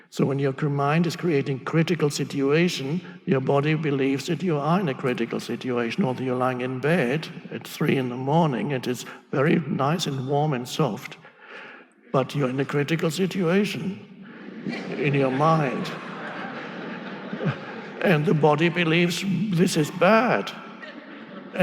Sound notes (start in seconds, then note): 15.7 audience laughing